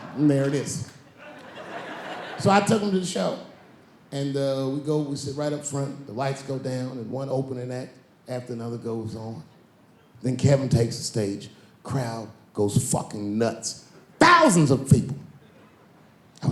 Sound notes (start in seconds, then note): 1.0 laughing